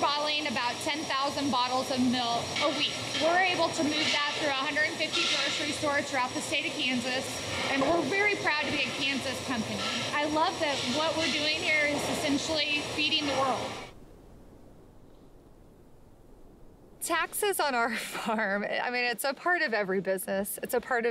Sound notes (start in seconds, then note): 13.2 wind blowing